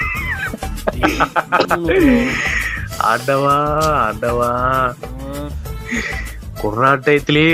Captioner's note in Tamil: சிரிப்பு